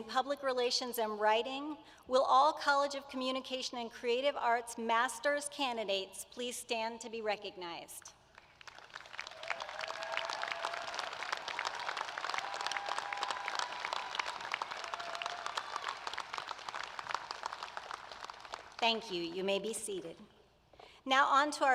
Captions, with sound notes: the Class of 2016 in the College of Communication & Creative Arts. [ APPLAUSE ] Starting with our graduate programs in Public Relations and Writing, will all College of Communication & Creative Arts